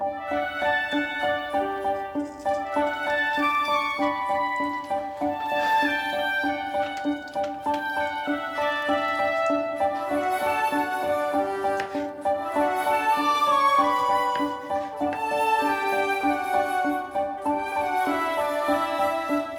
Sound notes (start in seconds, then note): 6.8 cheerful music; 11.6 knife scraping; 15.6 cheerful music